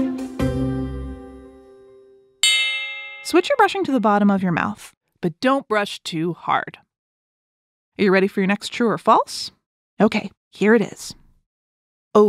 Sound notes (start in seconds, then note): 2.4 switch bell